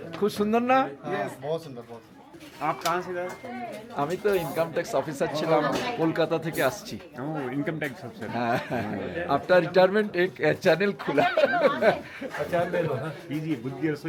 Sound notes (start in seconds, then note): 11.1 loud laughter